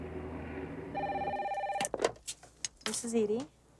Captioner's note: phone ringing